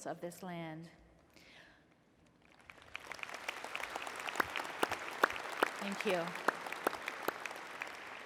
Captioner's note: applause